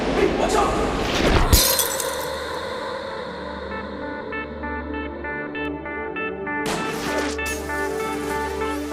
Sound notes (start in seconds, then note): 1.5 Glass shatters